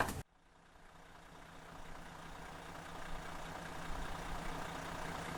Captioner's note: engine idling